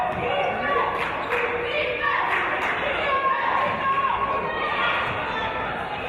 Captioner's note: audience chanting "Defense!"